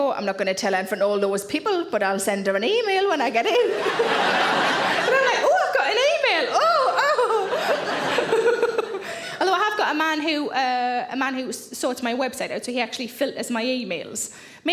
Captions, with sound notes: "I'm not gonna tell front all those people, but I'll send her an email when I get in." (audience laughing) And I'm like, "Oh, I've got an email, ooh." (laughs) (audience laughing) Although I have got a man who sorts my website out. So he actually filters my emails,